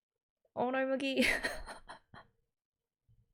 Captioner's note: laughs